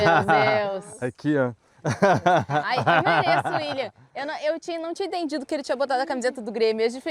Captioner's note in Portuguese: risadas